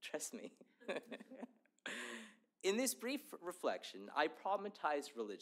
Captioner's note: laughter